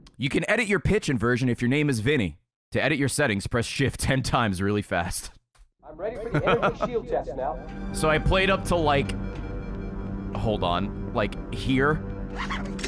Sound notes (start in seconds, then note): 6.0 laughs